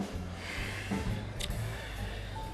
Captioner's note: sighs